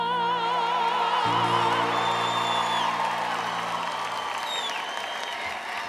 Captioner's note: audience cheering